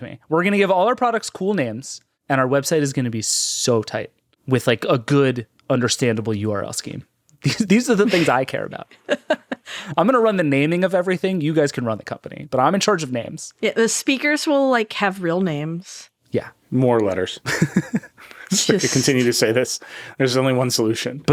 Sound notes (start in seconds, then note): 7.5 laughing; 17.4 laughing